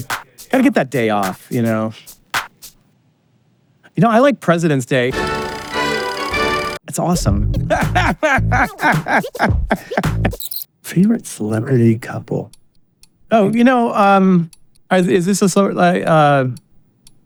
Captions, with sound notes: Gotta get that day off, you know? You know, I like Presidents' Day. It's awesome. (Laughing) ...favorite celebrity couple. Oh, you know, um, is this a celeb, like, uh...